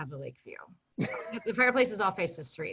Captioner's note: laughing